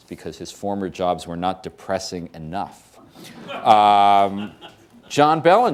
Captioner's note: laughter